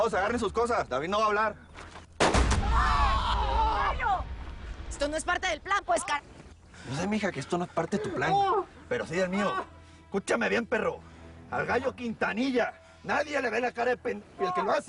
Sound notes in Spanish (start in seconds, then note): 2.2 Disparo; 2.2 Quejidos